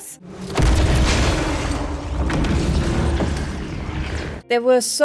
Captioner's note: sounds of a car crashing and an alien catching them